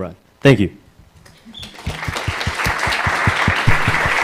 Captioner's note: applause